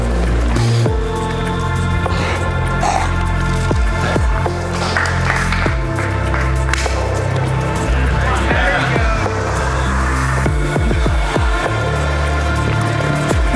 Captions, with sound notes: (spectators applauding) - Come on. - There you go! (tranquil pensive music)